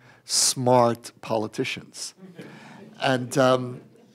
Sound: laughter

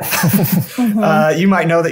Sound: chuckling

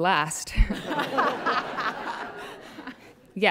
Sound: laughter

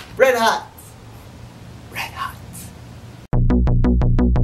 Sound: whisper

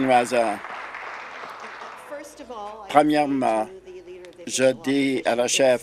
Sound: applause

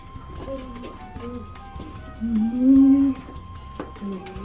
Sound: humming

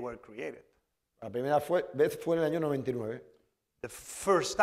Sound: speaking spanish

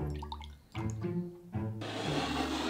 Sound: liquid pouring

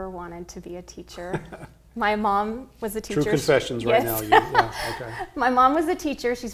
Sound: laughs

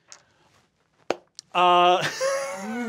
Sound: laughing

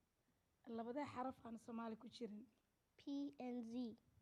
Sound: speaking Somali

